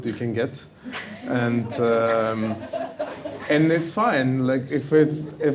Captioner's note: audience members laughing